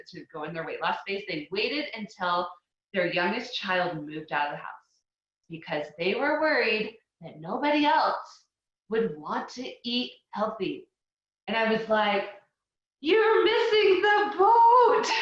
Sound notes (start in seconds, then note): none